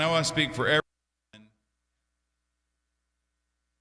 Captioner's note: silence